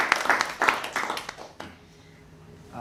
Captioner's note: applause